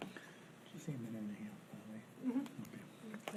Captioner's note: speaking faintly